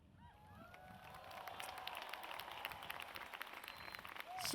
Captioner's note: audience cheers